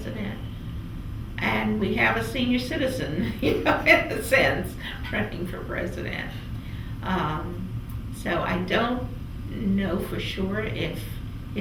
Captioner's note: laughs